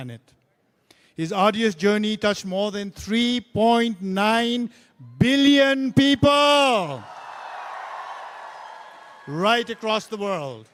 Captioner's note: cheering/Applause